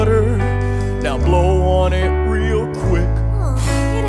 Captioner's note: woosh